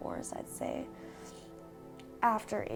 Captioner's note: sniffles